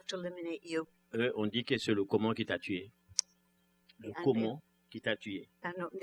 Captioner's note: speaking french